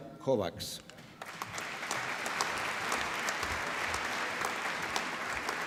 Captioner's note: applause